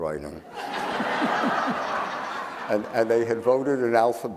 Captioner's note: audience laughing